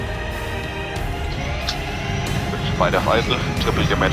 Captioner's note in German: Rotorblättergeräusch, Funkspruch